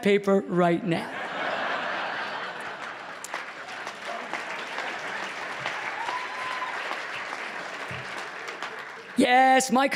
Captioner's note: applause